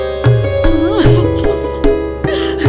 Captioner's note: Woman crying